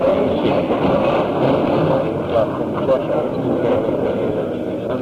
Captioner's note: crowd toasts